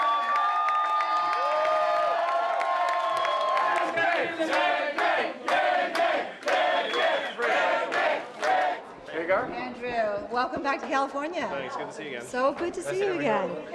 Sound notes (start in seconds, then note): 0.0 cheering; 1.1 Chanting "Yang Gang"